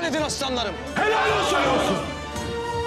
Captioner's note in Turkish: Hep bir ağızdan